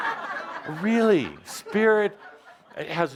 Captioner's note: laughter